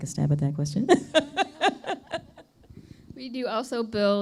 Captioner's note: laughter